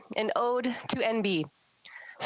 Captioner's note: speaking French